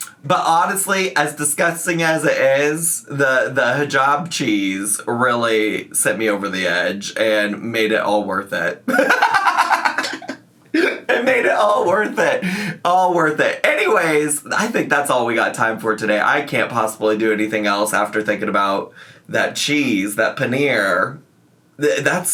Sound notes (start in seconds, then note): 8.9 laughs